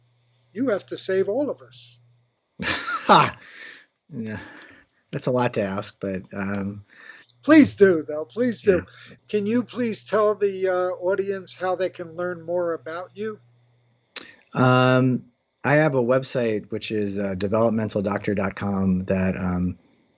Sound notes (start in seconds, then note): 2.6 laughs